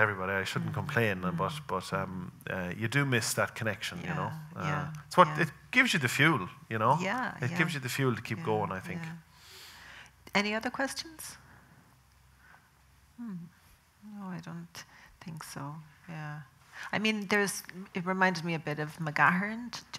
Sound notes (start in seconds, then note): none